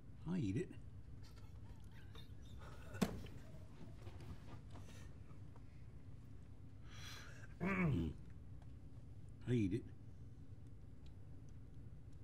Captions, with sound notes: I'll eat it. [CLEARS THROAT] I'll eat it.